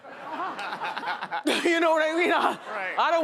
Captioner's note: audience laughing